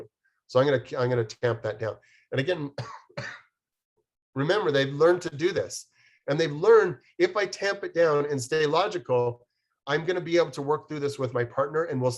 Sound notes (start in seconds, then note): 2.7 coughs